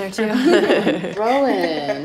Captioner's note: laughs